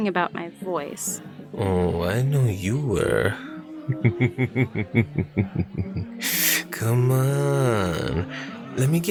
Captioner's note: laughs creepily